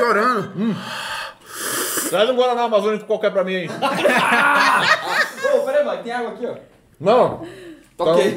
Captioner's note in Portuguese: risos